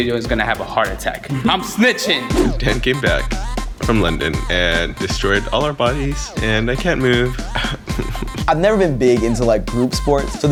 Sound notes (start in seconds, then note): 7.6 whimpering